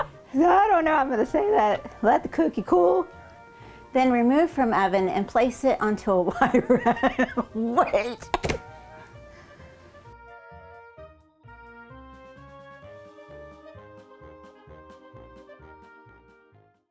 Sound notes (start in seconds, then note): 0.0 laughing; 6.3 laughing